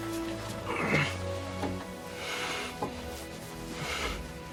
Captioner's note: Robert groaning